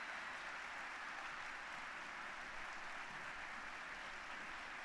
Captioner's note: applause